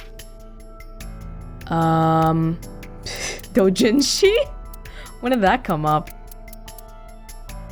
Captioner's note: snickers